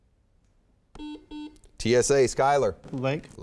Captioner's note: beeping